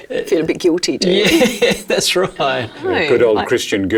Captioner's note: laughing